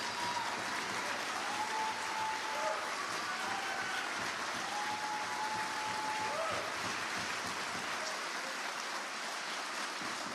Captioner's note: applause